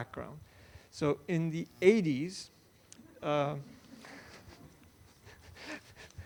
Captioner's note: all laughs